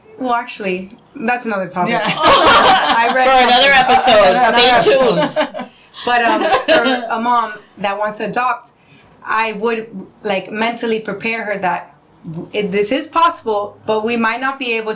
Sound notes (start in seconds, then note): 1.9 laughing